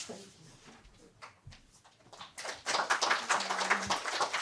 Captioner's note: applause